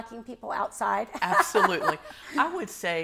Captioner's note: laughs